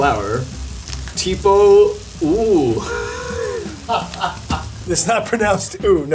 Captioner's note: chuckling